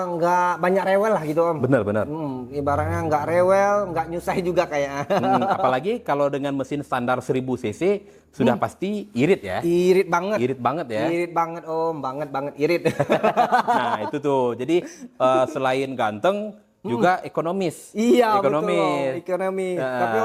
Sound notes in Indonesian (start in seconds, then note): 13.0 tertawa